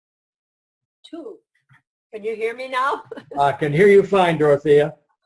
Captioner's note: laughs